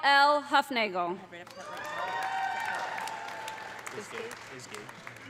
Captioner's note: audience applauding; audience cheering